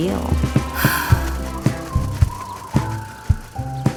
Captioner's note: breathes loudly